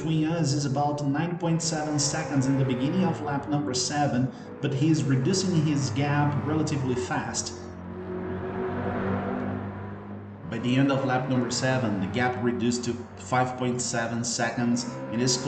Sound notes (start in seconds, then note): 7.7 engines revving, cars noises